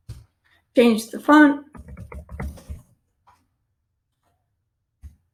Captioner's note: keyboard clicking; keyboard clicking